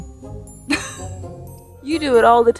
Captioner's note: speaker laughs